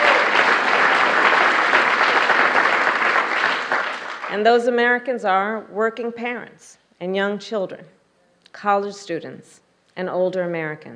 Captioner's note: applause